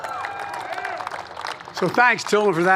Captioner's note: applause